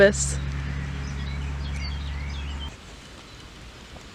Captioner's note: nature sounds